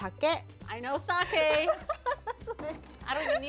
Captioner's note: speaking Japanese; laughing